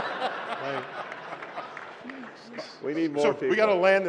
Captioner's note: laughter